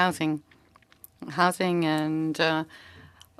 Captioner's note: speaking French